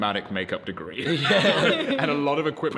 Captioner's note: laughter